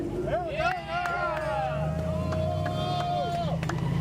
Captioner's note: cheering